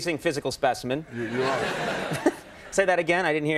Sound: audience laughs; giggles

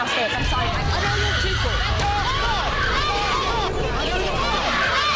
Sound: people screaming

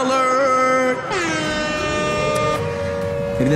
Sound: air raid siren

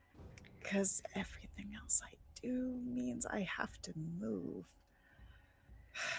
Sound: sighs

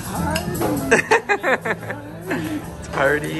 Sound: laughs

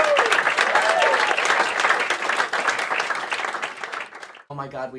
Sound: crowd claps and cheers

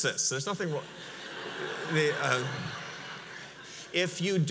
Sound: audience laughs

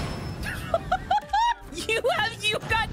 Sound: laughter

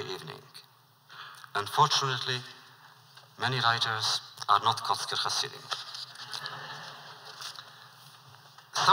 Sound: laughter

